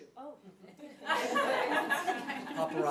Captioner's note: audience laughing